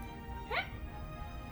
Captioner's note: dolphin noise